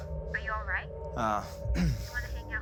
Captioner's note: on phone